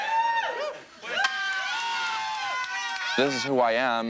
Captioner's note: attendees cheer; roommates cheer